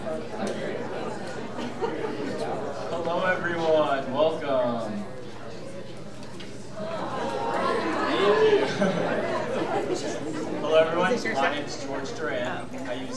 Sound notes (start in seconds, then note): 7.0 all giggling